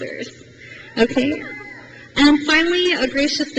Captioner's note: crowd cheers